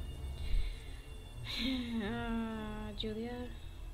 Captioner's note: deep sigh